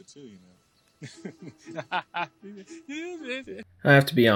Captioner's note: cackles